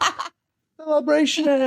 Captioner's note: laughing